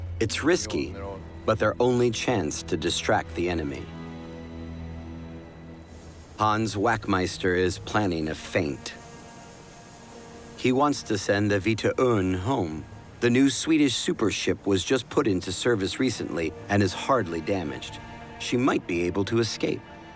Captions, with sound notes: It's risky, but their only chance to distract the enemy. Hans Wachtmeister is planning a feint. [hiss of sea spray] He wants to send the Vita Örn home. The new Swedish super ship was just put into service recently and is hardly damaged. She might be able to escape.